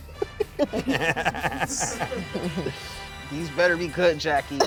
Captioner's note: laughs